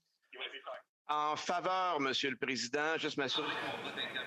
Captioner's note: speaking French